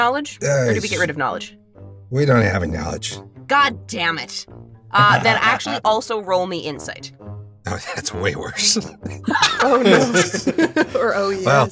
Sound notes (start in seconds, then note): 9.2 laughs